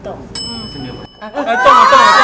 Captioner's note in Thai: หัวเราะ